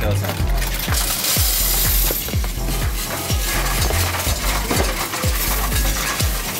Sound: upbeat music; coins rattling

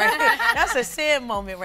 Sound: all laughing

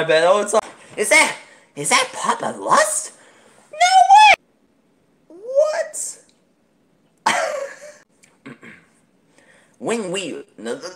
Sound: insert coughing sounds

